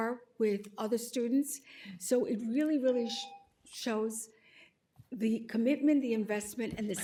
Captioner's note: timer tone